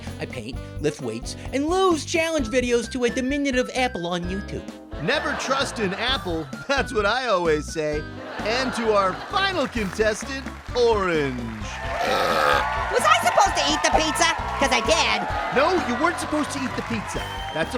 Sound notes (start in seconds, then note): 5.0 audience laughs; 8.2 audience laughs; 11.9 Orange burps loudly; 12.2 audience cheers